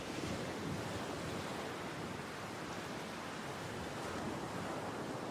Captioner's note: waves splashing